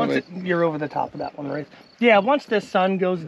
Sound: none

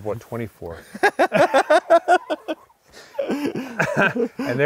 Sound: both laughing

